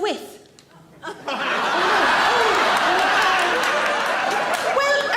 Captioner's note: audience laughs